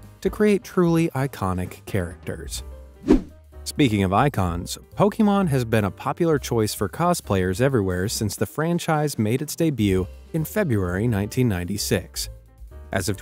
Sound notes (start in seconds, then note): 3.0 air whooshing